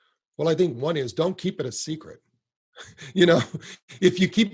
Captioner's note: chuckles